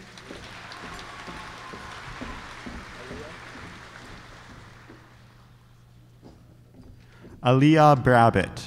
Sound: applause

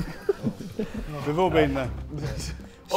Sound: Sidemen laughing

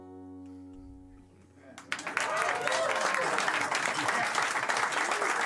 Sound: cheers and applause

